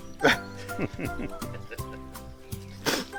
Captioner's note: chuckles